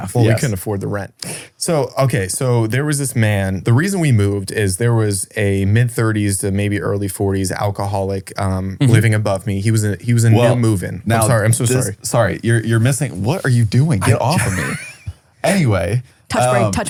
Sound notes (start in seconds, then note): 14.0 laughs